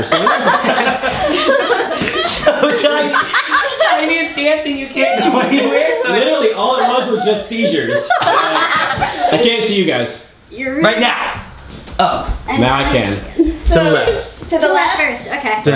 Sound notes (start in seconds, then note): 0.0 laughter; 6.3 voiceover; 12.5 voiceover